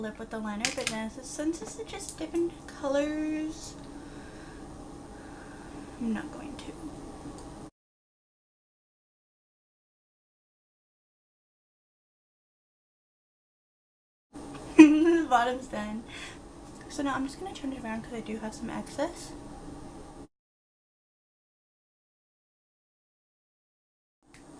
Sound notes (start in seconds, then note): 14.7 giggles